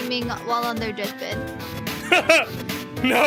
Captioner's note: laughs